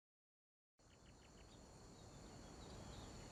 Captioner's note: birds calling